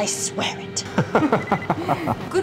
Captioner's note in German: gelächter